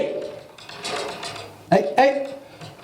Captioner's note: nails scratching